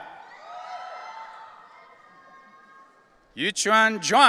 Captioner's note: audience cheering